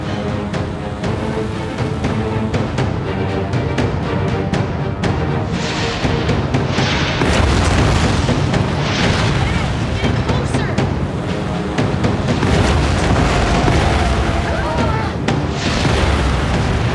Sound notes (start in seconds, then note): 12.8 tires screeching; 14.3 yells